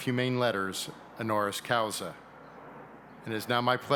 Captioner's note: speaking in a foreign language